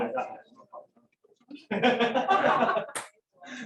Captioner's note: laughter